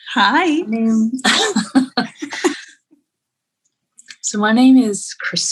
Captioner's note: laughing